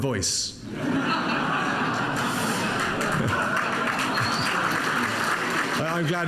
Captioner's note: audience laughs and applauds